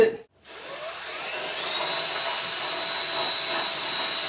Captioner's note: grinding machine